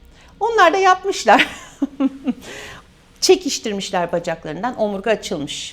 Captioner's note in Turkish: kahkaha